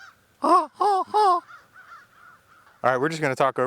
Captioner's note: imitates birds squawking; birds squawking